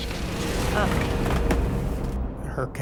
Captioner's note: clutter falling